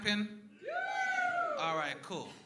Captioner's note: crowd woos